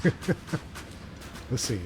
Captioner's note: laughs